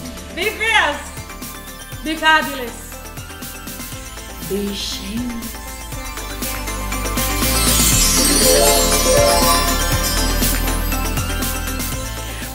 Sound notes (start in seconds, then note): 6.1 upbeat music; 8.7 fairy sound effect; 10.0 upbeat music